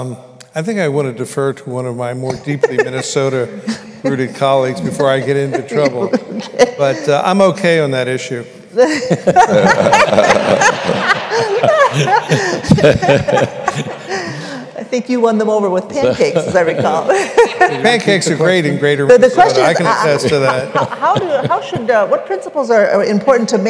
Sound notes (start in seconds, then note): 4.9 laughter; 8.8 laughter